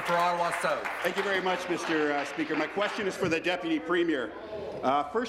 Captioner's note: applause